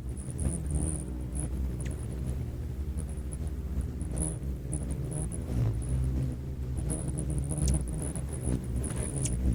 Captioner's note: bird chirping; bird's wing flapping